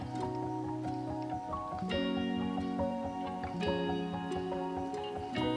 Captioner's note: waddle waddle